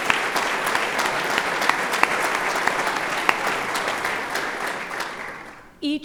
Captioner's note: applause